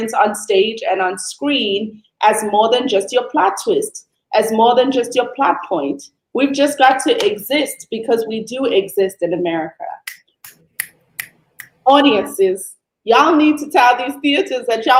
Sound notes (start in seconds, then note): 11.5 snapping the fingers